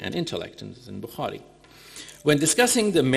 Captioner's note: speaking in foreign language